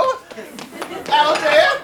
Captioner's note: audience laughs